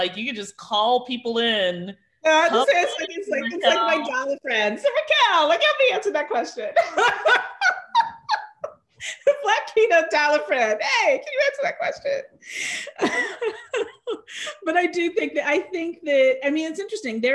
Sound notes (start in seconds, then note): 6.8 laughs; 12.8 chuckles